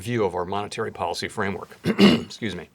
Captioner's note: clears throat